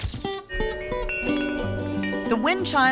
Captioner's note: wind chime